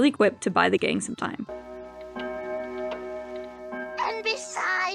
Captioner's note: clock chime